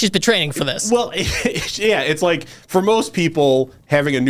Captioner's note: laughs